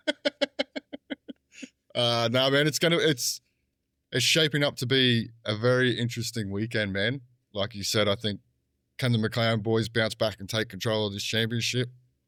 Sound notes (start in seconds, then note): 0.0 laughing